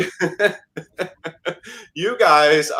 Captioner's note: laughs